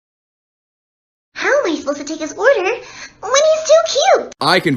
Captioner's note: reading the image in an anime girl voice